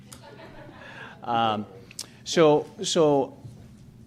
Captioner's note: audience laughs